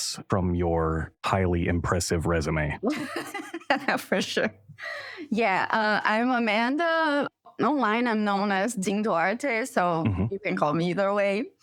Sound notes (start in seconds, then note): 4.4 laughter